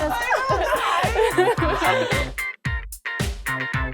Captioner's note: laughing